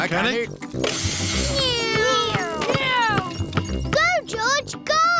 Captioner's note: whirring